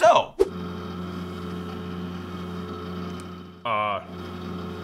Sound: computer whirring

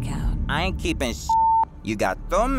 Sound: beep

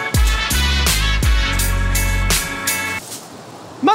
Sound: rustling

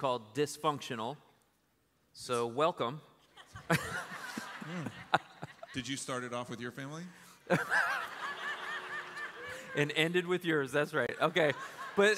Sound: laughter

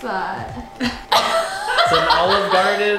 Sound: laughing

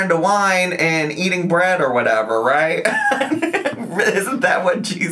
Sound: laughs

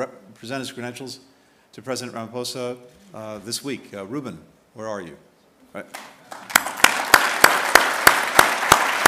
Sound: applause

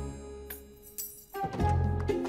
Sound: keys falling

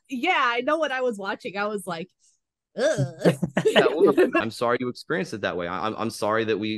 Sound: noise of discomfort

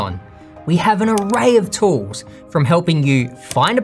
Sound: soft clicking

